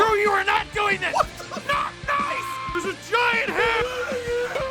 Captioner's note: screaming; Harry potter screaming